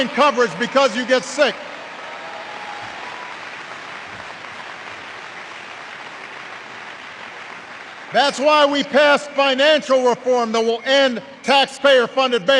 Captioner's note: applause